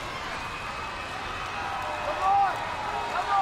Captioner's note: crowd clamors